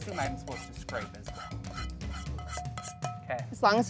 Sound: metal clanging

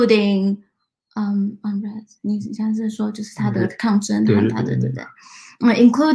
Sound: speaks mandarin

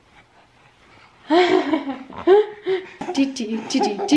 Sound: laughter

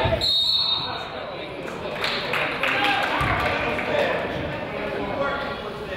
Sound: whistle blows; crowd applauds

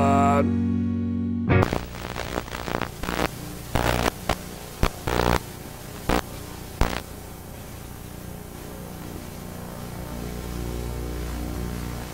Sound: static noise

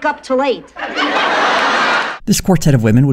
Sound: audience laughter

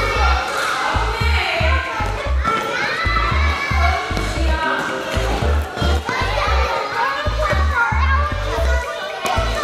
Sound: kids all talking excitedly

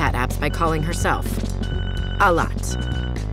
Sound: phone ringing

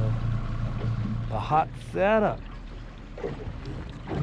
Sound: boat engine idling

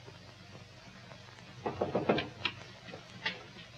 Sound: knocking

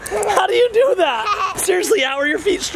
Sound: laughs

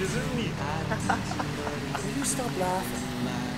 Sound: laughing

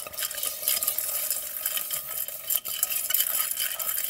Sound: metal scraping

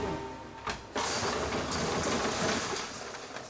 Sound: bins banging

